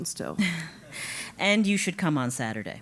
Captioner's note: laugh